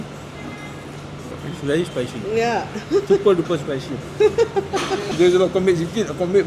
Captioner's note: laugh